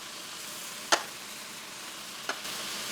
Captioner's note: sizzle